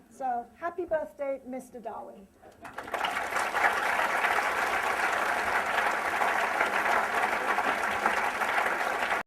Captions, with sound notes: So happy birthday, Mister Darwin. [APPLAUSE]